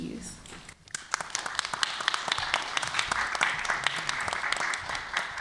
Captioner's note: applause